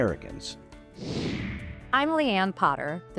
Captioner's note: computer whooshing